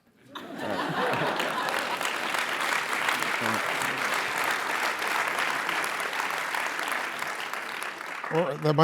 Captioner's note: laugh; applause